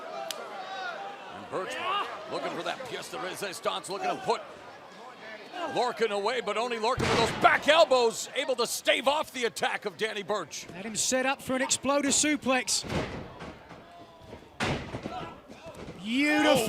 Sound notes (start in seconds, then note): none